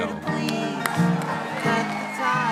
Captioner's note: audience applauding